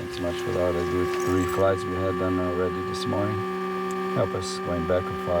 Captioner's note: plane whirring